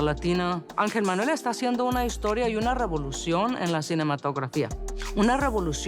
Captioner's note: in Spanish